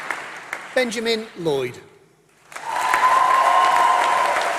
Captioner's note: applause